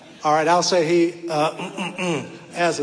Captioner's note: clears throat